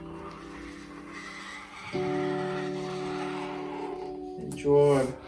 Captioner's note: squeaking